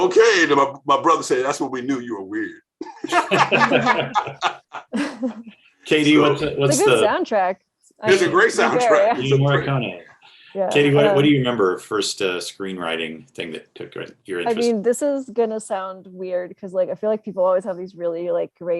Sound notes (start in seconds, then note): 2.9 everyone laughing